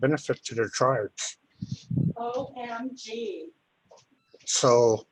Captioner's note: background voice